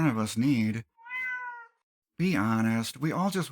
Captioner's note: meow